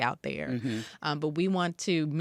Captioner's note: mmhmms